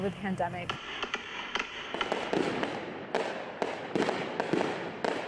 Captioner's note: fireworks exploding